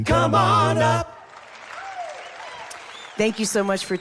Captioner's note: crowd clapping